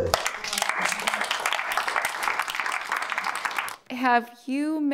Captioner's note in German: Publikum applaudiert